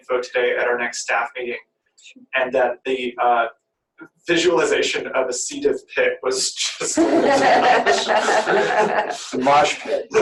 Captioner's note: laughter